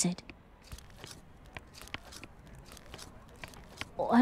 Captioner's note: footsteps